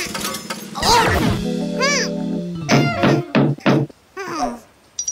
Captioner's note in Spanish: Golpes en vidrio